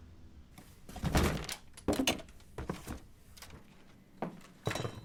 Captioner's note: objects thumping